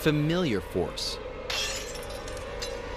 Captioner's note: glass shatters